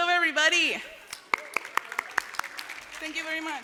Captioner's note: applause